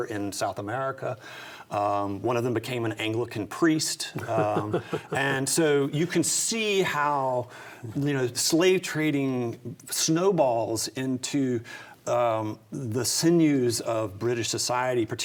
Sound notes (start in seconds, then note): 4.2 laughs